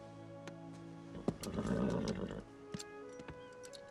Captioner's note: horse nickers